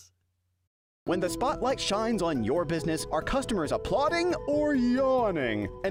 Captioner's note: voiceover